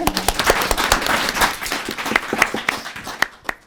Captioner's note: applause